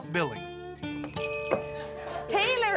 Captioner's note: door bell jingles